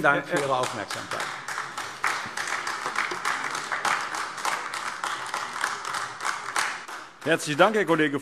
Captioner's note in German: Beifall AfD